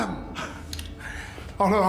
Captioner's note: gasps